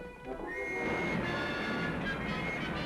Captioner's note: whistle blowing